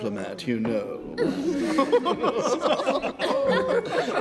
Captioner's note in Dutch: iedereen lacht